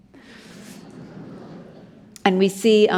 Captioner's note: audience murmuring